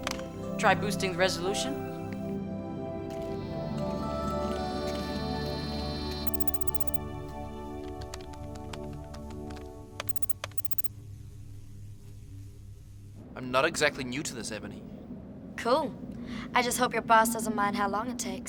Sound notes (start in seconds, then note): 3.2 camera swiveling; 7.8 typing